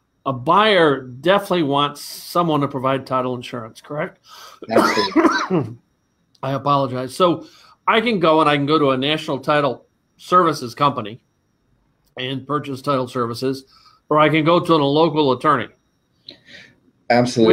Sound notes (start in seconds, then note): 4.6 coughing